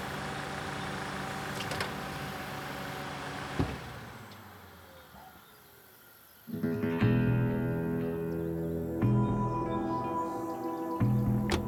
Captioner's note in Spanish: Ruido del auto